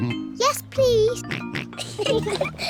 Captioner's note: snorts; oinks; both giggle